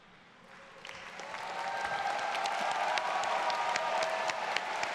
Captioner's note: audience cheers